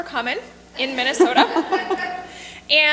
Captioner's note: laughter